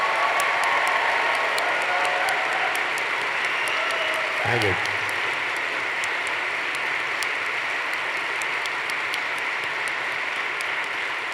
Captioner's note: applause